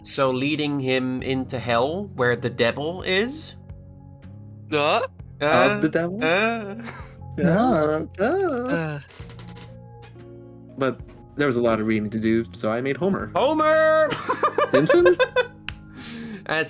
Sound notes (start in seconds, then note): 4.1 ohhing and uhhing; 8.2 more ohhing and uhhing; 14.1 laughing